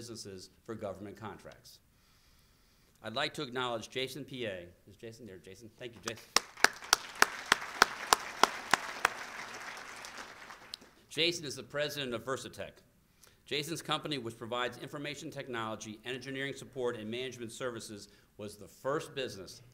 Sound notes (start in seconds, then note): 6.0 applause